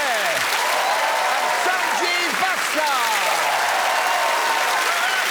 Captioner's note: applause